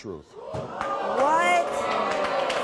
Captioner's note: audience gasping and cheering